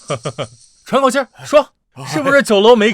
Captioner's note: gasping for air